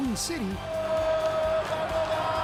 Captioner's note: cheers and applause